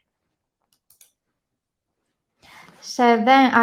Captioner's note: mouse clicking